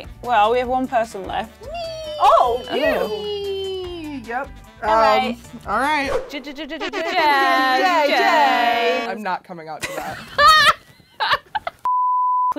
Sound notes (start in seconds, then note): 7.8 horn blast; 9.8 giggling